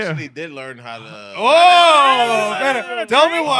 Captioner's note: cheering